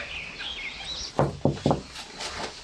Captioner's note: knock knock